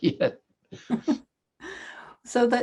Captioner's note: both laughing